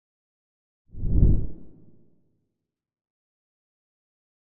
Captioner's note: banner whooshing